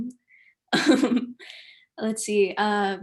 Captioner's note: laughing